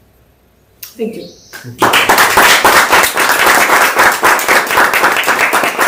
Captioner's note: applause